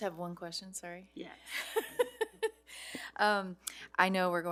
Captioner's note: laughing